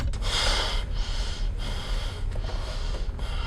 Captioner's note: exhaling